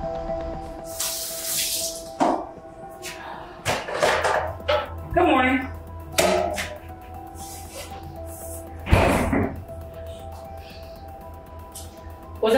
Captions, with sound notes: (mysterious music continues) (water splashing) Good morning. (refrigerator rattling)